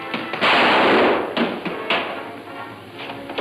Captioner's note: gun roars